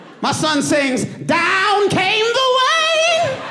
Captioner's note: audience laughing